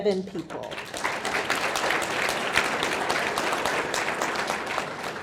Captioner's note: audience clapping